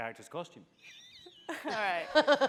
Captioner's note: laughing